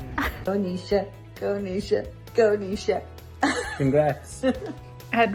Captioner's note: laughs